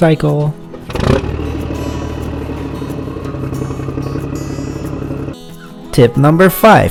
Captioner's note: motorcycle sound